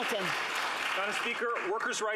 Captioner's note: some Applause